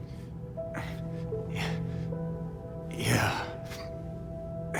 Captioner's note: groaning